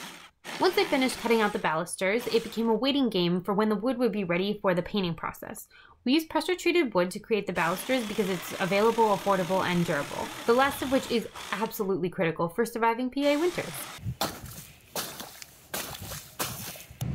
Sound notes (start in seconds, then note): 14.0 sploosh; 15.7 feet splash in slush